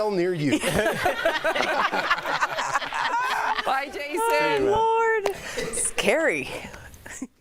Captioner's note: laughter